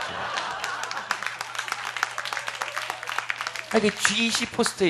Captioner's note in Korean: 웃음